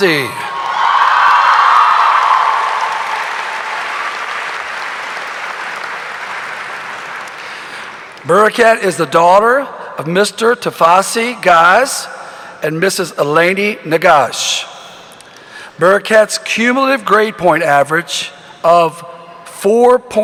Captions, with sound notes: (audience cheering) (audience applauding) Bereket is the daughter of Mr. Tafesse Gaz and Mrs. Elaney Negash. Bereket's cumulative grade point average of 4.818